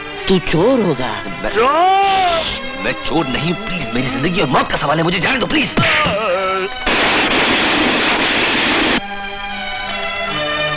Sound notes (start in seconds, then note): 7.4 train rumbling